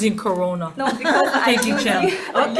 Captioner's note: senators laughing